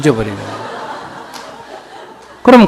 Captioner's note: audience Laughter